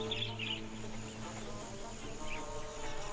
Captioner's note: chirping